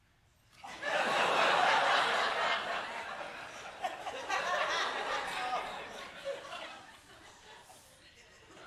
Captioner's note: laughter